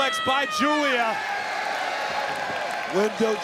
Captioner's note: Giulia yells; crowd cheers